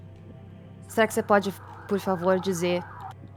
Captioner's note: siren in the background